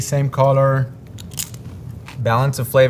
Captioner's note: mouth crunching